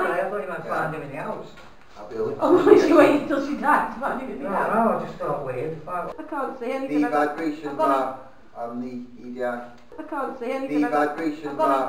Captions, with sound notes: Ohh, I thought you meant find him in the house Sarah (laughs) - What she waits till his died to find him in the house Don;t know, thought weird I can't see anything The vibration bar On the EDI+ I can't see anything The vibration bar